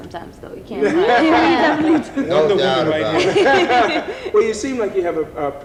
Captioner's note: laughing